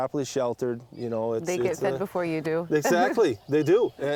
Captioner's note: laughs